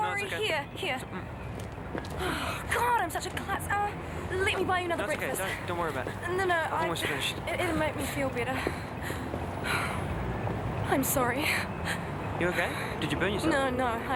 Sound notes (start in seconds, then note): none